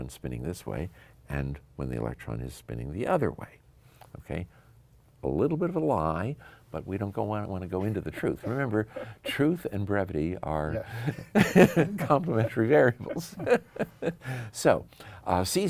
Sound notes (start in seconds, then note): 10.7 laughs